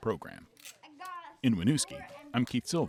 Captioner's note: children talking